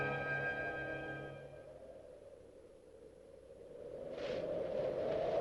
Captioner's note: wind whistling